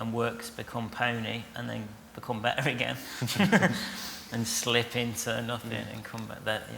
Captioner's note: laughter